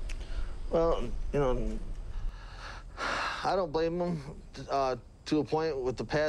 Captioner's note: sighs